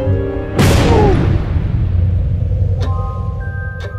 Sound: loud bang; music immediately stops

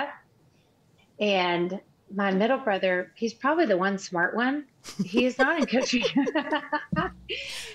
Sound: laughs

